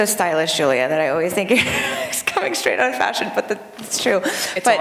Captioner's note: laughter